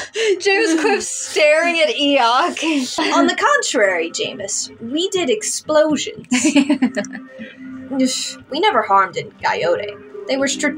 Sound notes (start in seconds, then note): 6.3 laugh